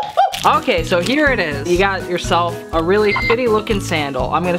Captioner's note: beep